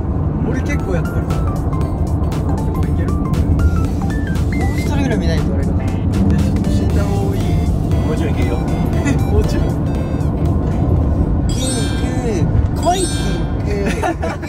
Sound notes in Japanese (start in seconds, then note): 11.5 効果音 キランッ✨キランッ✨キランッ✨